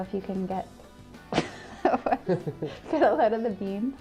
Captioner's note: laughter